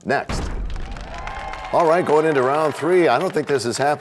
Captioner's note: crashing sound